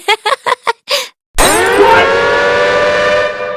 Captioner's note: laughs at her own joke; alarm Suddenly goes off!